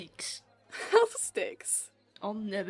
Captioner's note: Lily laughs